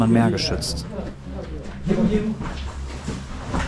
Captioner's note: buzz of voices